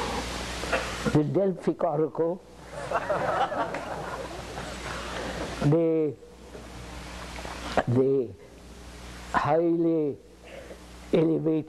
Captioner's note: laughter